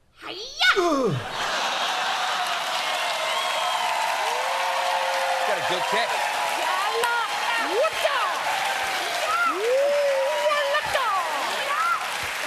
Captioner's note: laughter